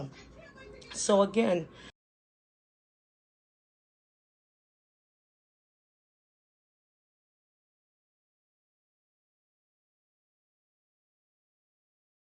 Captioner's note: audio cuts out